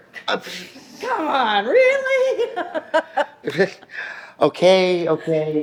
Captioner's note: laughs